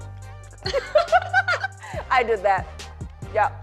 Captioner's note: laughs